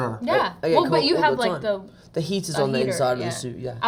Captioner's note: none